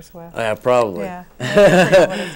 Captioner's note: laughs